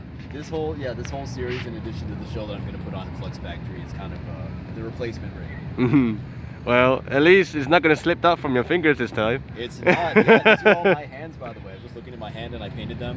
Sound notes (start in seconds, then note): 9.9 laughs